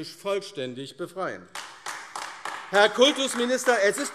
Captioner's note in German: Beifall AfD